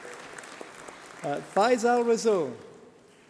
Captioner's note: applause